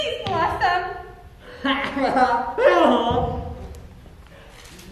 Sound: Bray laughs

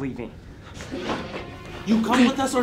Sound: footsteps shuffling; intense music

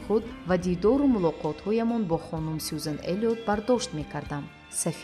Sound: journalist narrating in tajik

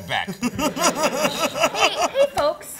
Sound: laughs

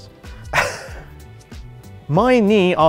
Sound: scoff

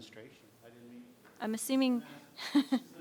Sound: laughs

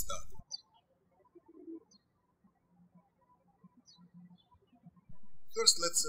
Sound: birds chirping

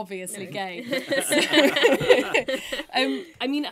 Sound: all laughing

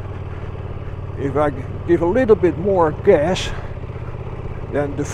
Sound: throttle

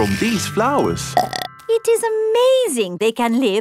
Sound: burps

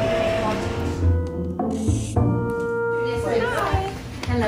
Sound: pen scratches

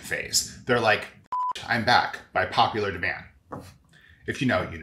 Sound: beep

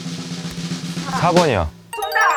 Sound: snap

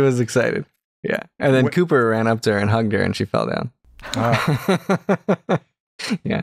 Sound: laughter

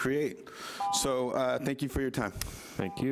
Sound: timer buzzes

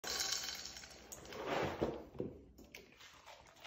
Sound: cereal pouring

